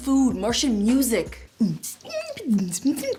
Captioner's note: alien beatboxing